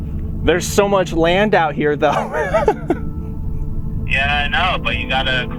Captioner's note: laughing